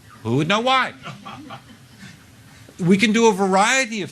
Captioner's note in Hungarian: A közönség nevet